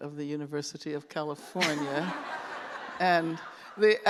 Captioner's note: laughter